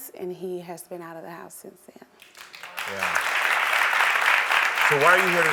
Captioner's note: audience applauds